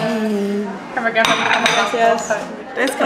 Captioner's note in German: auf Spanisch